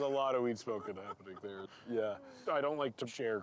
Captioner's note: laughing